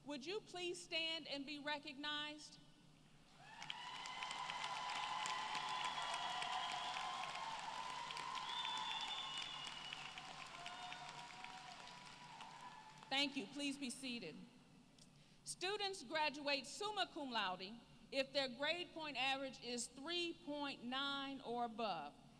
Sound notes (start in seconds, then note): 3.4 applause